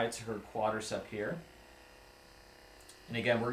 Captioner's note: Hypervolt GO vibrating